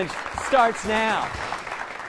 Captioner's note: applause